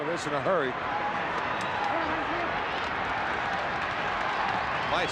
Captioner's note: crowd yelling